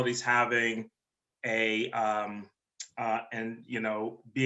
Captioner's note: none